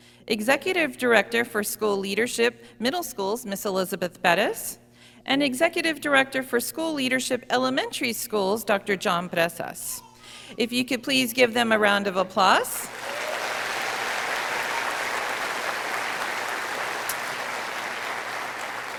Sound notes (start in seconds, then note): 12.8 audience applauding